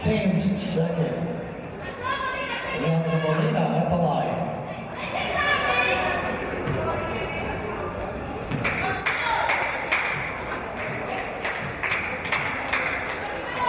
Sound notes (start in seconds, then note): 8.6 yells and clapping from audience